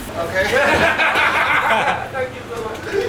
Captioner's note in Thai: เสียงหัวเราะ